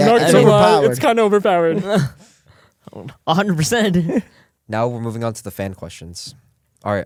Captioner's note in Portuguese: risos